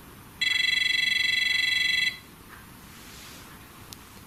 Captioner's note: high-pitched buzzing